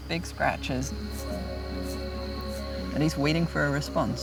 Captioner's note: scratching